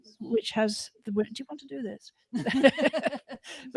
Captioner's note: laughter